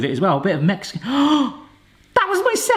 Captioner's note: gasps